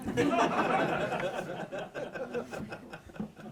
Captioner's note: laughter